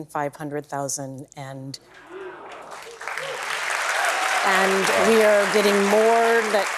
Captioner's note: applause